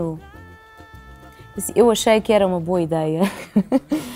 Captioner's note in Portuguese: risos